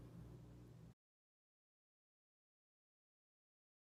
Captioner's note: silence